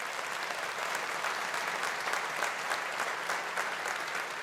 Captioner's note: audience applauding